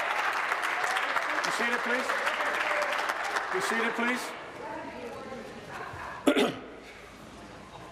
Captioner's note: applause